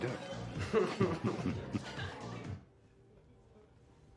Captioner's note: semua tertawa